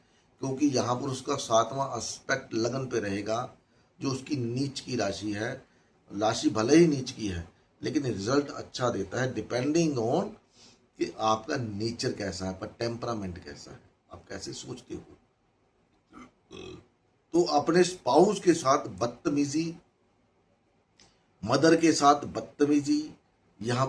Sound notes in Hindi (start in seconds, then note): 10.9 नाक से की जाने वाली आवाज़; 16.4 गला साफ़ करने की आवाज़